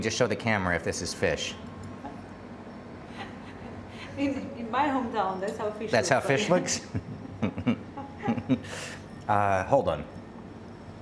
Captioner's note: laughing